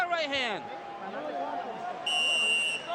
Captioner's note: whistle blows